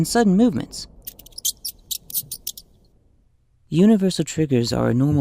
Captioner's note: mouse squeaking